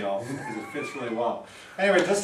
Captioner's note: laughing